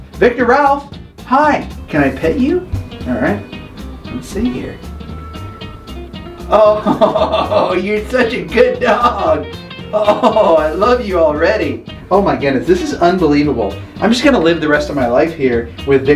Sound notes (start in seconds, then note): 6.5 laughs